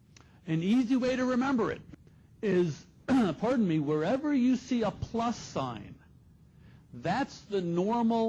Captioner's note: clear throat